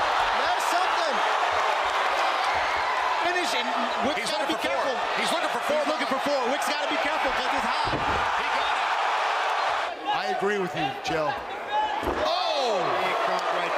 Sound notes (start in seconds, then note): 9.1 cheering